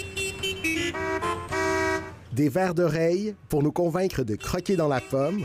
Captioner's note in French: coups de klaxon